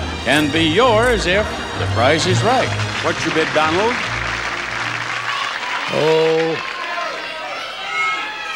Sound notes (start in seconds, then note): 4.7 audience cheers